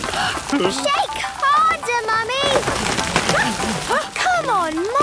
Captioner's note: all groaning; exclamations